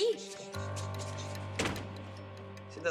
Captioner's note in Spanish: sonido al cerrar la puerta